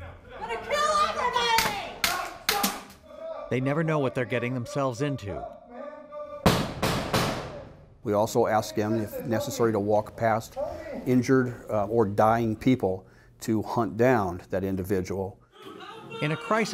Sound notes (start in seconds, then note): 3.0 guns clicking; 6.5 gun shots fired